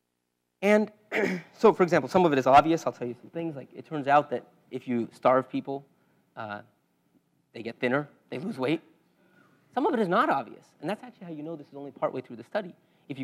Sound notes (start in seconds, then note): 1.1 cough